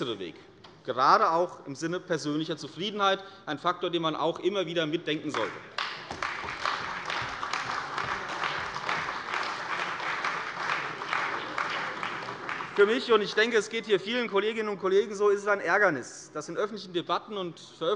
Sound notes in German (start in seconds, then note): 5.3 Beifall bei der CDU und dem BÜNDNIS 90/DIE GRÜNEN